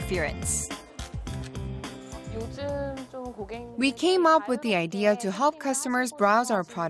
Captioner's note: Korean